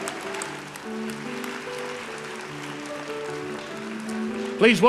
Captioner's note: applause